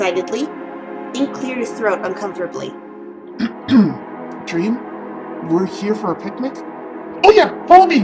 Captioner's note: clearing throat